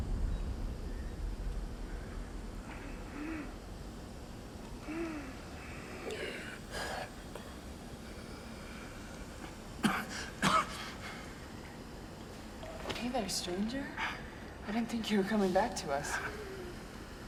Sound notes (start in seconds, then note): 2.0 Wally wheezing; 9.8 coughing